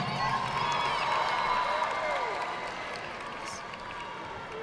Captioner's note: audience clapping